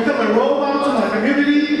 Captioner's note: audience speaking